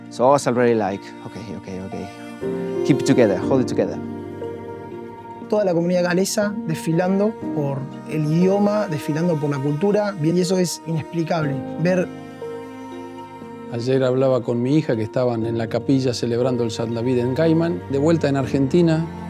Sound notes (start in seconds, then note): 2.3 exhales; 13.7 in Spanish